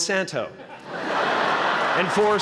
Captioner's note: laughter